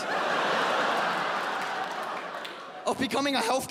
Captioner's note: audience laughs